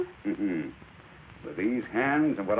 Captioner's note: chuckles